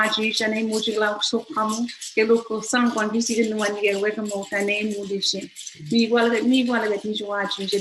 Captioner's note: foreign language